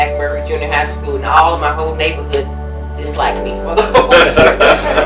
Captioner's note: collective laughs